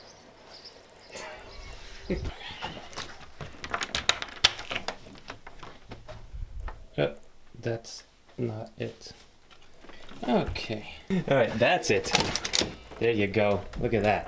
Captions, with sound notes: (laughs) (door unlocks) That's not it. Okay. Alright that's it. There ya go.